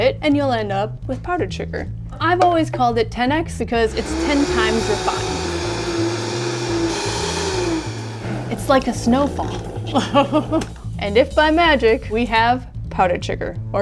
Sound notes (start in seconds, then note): 3.8 blender whirs; 9.4 laughs